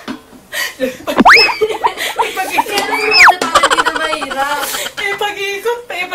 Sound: laughs

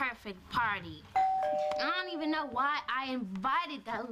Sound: doorbell rings

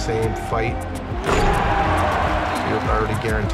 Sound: crowd cheers

